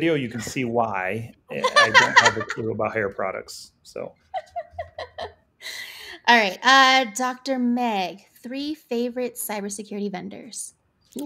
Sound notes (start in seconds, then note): 4.3 laughs